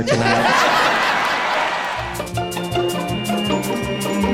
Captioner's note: audience laughing